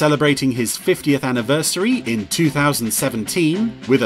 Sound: none

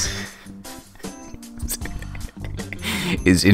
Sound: laughs

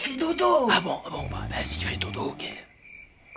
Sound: whispered

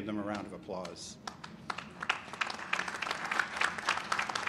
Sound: applause

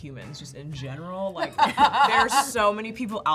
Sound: laughing

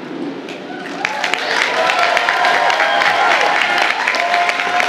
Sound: audience applauding

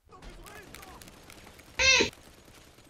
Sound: meow

